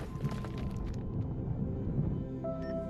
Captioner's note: thud